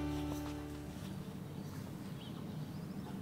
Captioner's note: birds chirping